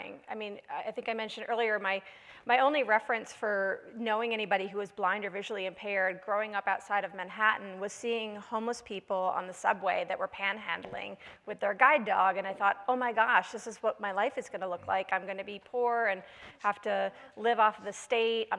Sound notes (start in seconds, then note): none